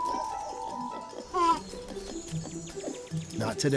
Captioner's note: calling